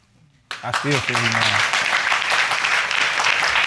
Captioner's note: audience applauding